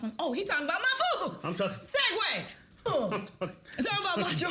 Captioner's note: grunts